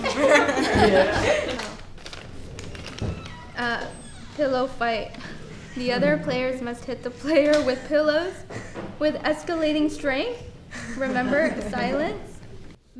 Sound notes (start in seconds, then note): 0.0 laughter; 1.6 opening paper; 5.4 sigh